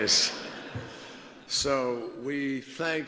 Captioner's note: laughter